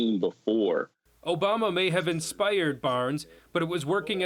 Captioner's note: male Voice